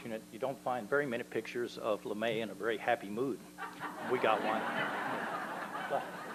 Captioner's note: laughter